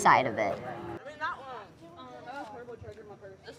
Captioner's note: indistinct chatter